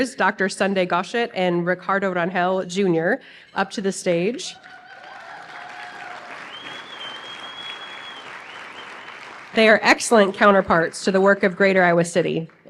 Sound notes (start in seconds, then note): 4.5 applause